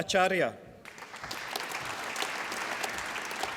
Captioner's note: applause